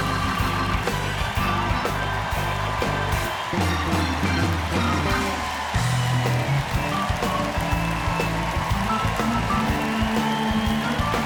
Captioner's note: cheers and applause